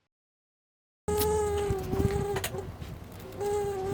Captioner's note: high pitched buzzing